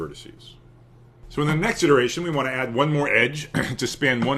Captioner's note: cough